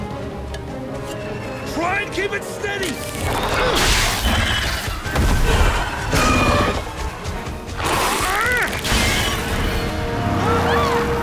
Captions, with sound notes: Try and keep it steady. -[Hap grunts] -[screeches]